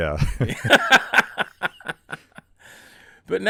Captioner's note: laughing